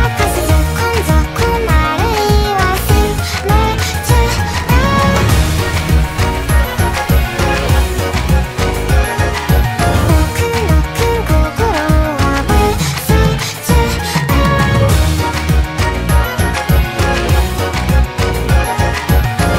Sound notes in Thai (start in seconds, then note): 9.8 ตึ้ก ตั้กๆ